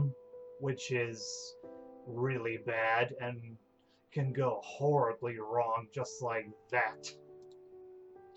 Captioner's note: finger snap!